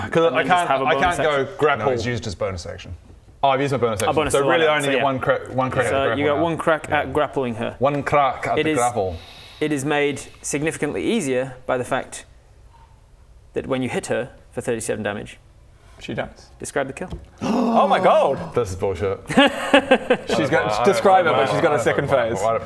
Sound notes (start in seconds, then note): 17.4 gasp